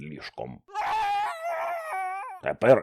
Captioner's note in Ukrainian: крик жаху